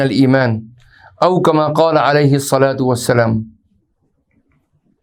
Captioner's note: arabic